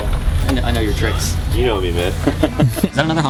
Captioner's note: both laugh